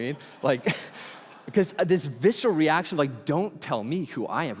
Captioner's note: congregation laughing